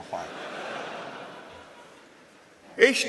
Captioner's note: laughter